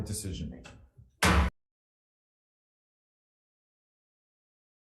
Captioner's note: gavel pounding